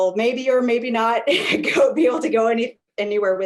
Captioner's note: laughs